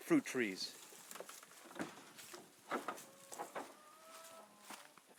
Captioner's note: door closing